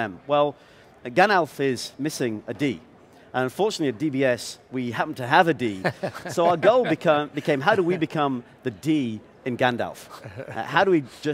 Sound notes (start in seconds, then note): 5.8 laughing